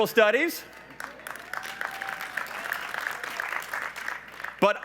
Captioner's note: applause